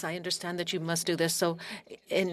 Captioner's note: speaking French